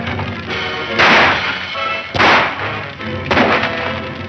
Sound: shots fire

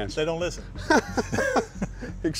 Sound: laughs

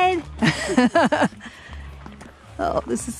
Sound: laughs

